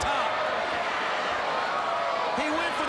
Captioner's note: crowd cheering